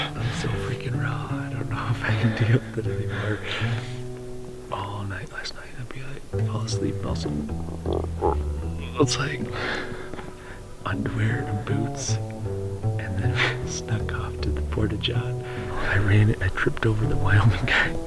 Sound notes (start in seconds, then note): 7.4 makes stomach noise